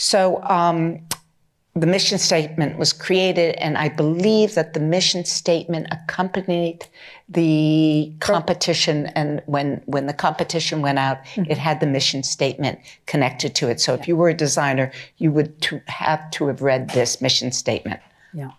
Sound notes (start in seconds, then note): none